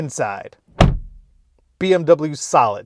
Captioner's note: door thuds